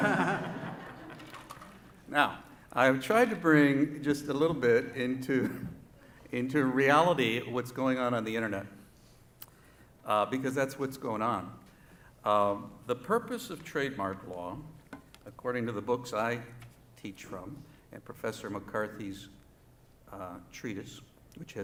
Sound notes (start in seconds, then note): 0.0 laughter